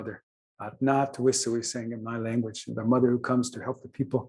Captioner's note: non-english speech